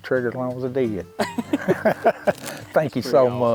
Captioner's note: hunters chuckling